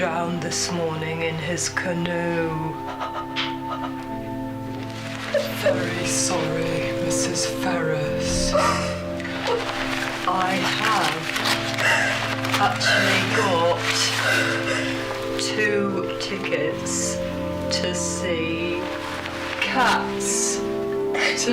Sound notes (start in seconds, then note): 3.2 shocked breathing; 8.4 sobbing